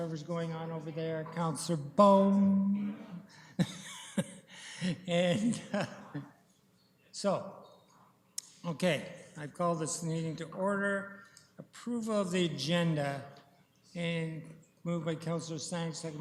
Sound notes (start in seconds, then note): 3.6 laughs